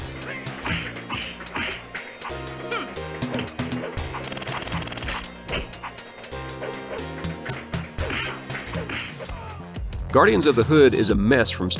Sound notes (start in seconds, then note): 3.2 more game sounds